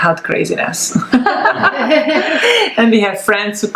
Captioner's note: laughs